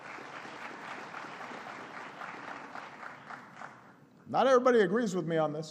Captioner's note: applause